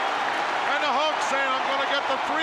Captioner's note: crowd cheering